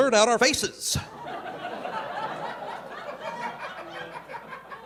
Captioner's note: audience laughing